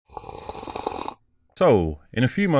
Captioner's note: slurp